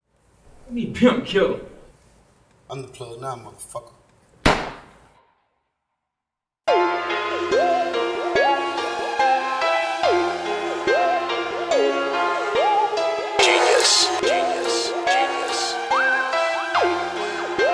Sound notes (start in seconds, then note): 4.4 gun pops; 7.2 dark hip-hop music